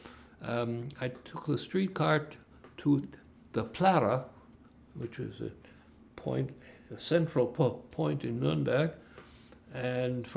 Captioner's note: german